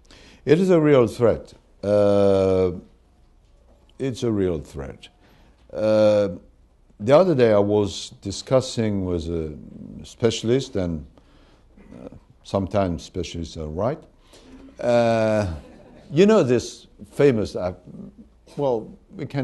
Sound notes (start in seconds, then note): 15.4 laughter